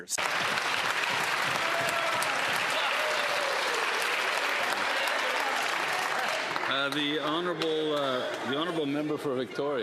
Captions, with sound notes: know, the member can fix all that. He can stands up and apologize for voting against those measures. [Some Applause]